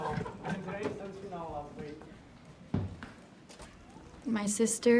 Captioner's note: officer and cadet laugh; chatter in background